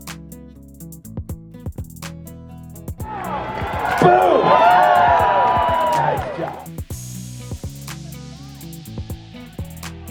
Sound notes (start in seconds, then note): 3.0 cheering; 7.3 upbeat music